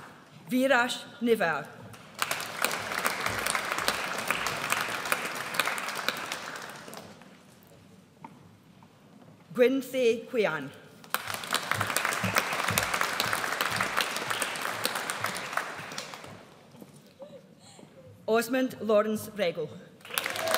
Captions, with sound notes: Viraj Newar. (AUDIENCE APPLAUDS) Nguyen Thi Huyen. (AUDIENCE APPLAUDS) Osmund Lawrence Rego.